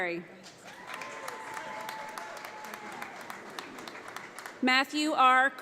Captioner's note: audience applauds